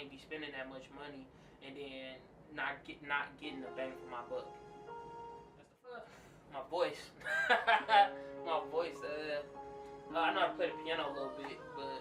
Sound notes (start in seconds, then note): 3.4 piano melody; 7.2 laughing